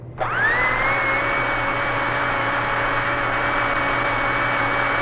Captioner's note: vacuum whirring